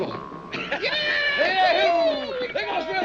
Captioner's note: all cheering